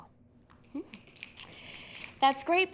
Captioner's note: fingers snapping